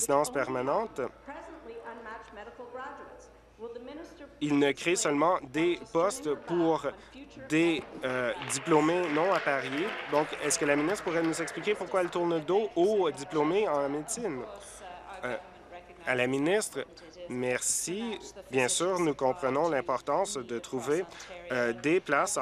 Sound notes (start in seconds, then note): 11.7 applause